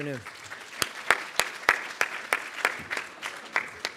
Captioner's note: audience clapping